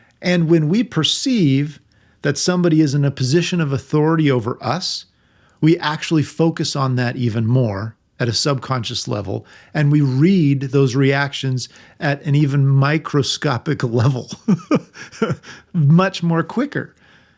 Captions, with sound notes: And when we perceive that somebody is in a position of authority over us, we actually focus on that even more at a subconscious level. And we read those reactions at an even microscopic level. (laughs) Much more quicker.